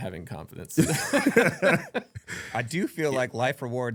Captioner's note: laughing